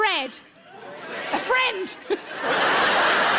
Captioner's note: giggles; audience laughs